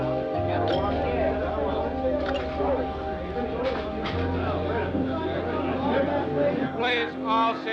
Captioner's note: talking in background